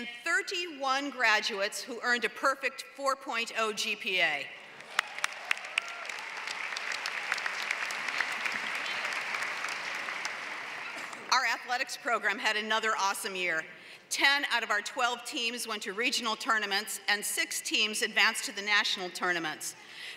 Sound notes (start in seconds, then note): 4.7 applause